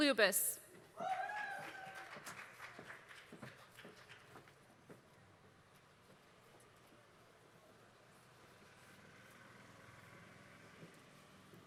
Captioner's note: applause